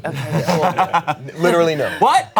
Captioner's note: all laugh